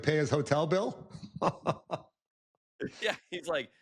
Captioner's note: laughs